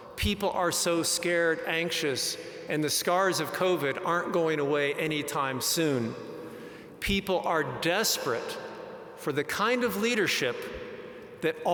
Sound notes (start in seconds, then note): none